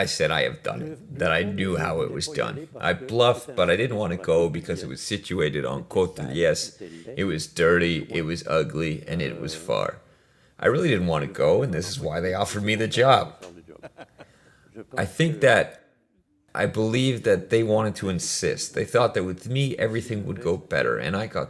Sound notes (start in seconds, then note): 15.0 laughs